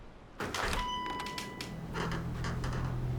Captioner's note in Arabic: رنين جرس الباب; موسيقى مشؤومة